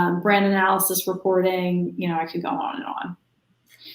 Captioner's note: none